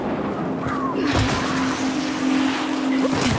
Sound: wind blowing

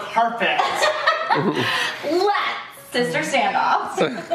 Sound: laughing

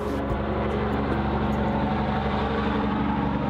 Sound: tires whirring

